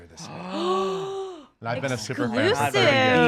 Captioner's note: gasping